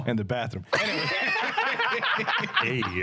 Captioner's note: laughing